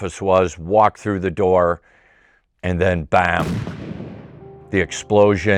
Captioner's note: loud explosion